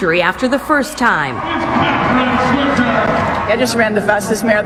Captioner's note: crowd cheering